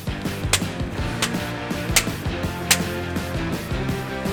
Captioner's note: loud smacks